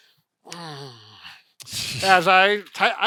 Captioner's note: groaning; chuckling